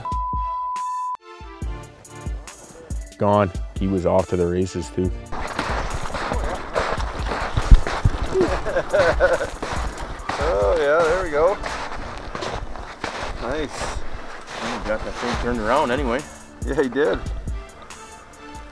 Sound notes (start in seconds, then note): 8.1 chuckling